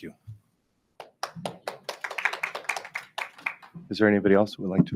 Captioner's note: audience applauds